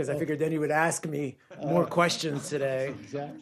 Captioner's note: laughter